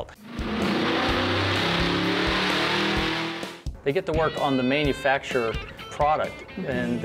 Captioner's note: motor noise